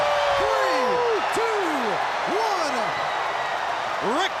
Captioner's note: crowd cheering